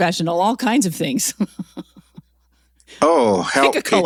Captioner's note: laughs